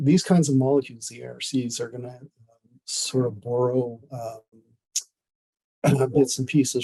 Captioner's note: clears throat